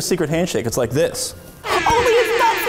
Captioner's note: electronic air horn blasts